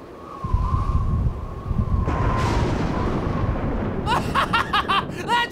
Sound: wind howling, thunder

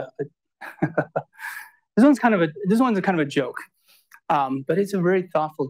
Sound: laughs

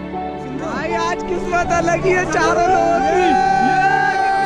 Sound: shouting loudly

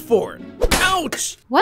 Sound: metals clanking

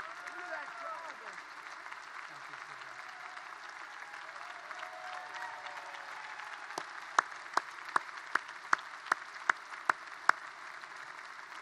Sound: applause

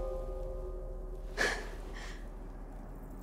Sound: gasp

